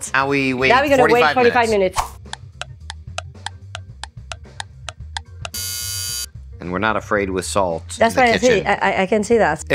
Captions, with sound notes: - Now we wait minutes 45 minutes. - Now we gotta wait 45 minutes. (clock ticking) (timer buzzing) - And we're not afraid with salt in the kitchen. - That's what I say, I can see that.